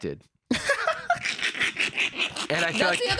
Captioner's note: laughs